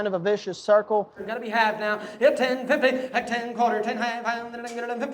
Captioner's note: auctioneer chanting